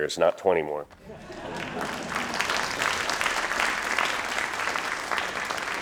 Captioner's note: crowd laughing and applauding